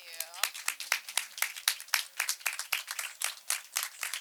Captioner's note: group clapping